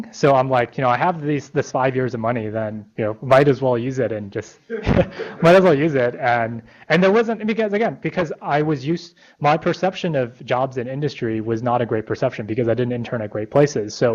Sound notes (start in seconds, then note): 4.7 laughter